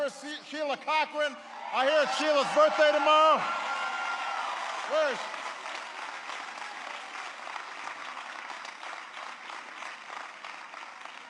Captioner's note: applause; applause